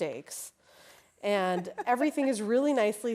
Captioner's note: laughing